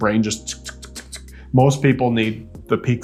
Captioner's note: host ticking